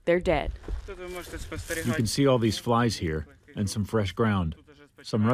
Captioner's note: through translator